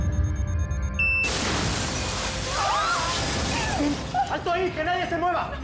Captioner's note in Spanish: bip acelerado; explosión; gritos